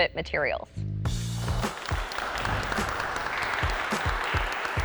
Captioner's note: audience applause